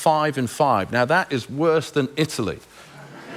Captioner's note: laughter